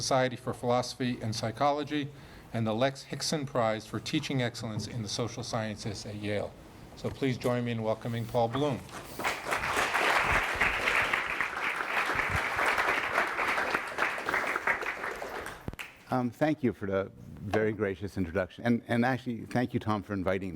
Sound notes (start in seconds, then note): 9.2 audience applause; 16.2 voiceover